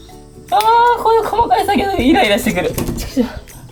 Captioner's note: laughs